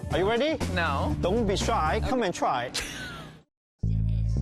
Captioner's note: laughs